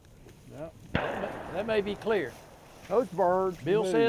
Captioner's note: distant gunshot echoes